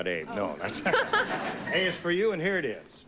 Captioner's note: laughs